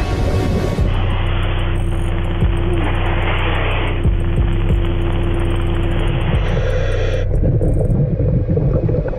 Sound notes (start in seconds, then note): 2.5 radio static